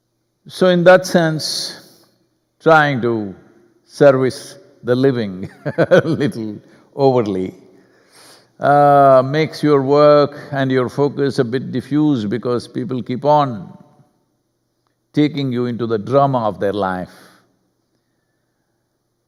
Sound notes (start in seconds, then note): 5.5 laughs